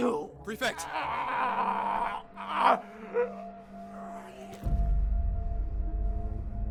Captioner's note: Prefect Lukon groans